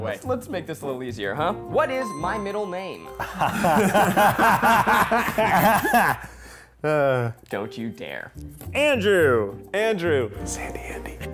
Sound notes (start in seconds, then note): 3.2 laughter